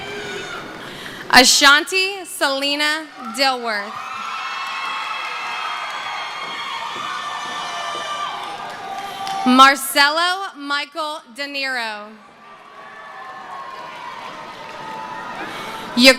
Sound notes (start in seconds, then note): 0.0 cheering; 5.6 screaming; 7.8 cheering; 12.2 cheering